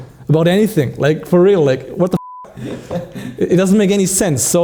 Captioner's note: beeping